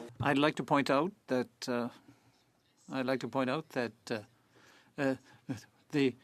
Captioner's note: speaking French